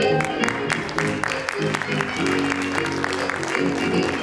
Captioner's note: audience applauding